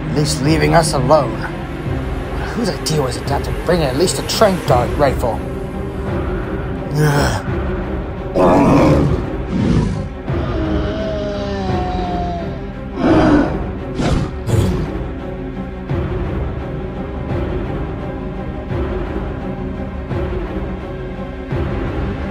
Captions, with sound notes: At least leaving us alone. But whose idea was it not to bring at least a tranq dart rifle? groans (grunting and roaring) (dramatic music)